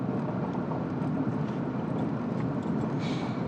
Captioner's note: the soft car rumbling